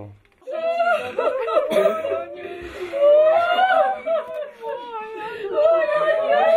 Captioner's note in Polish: płacz